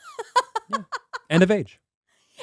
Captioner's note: laughing